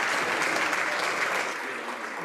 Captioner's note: some Applause